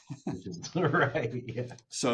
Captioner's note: laughing